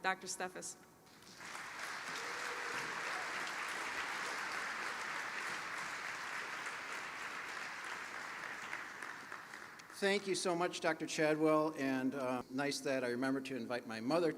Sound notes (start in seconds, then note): 4.5 applause